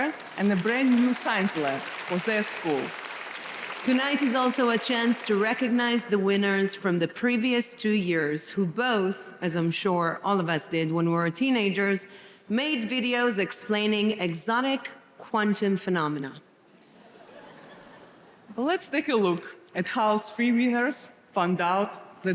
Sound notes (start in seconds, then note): 17.0 audience laughing